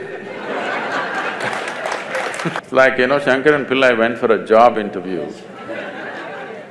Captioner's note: laughter/Applause; laughter